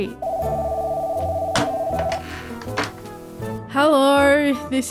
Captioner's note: phone rings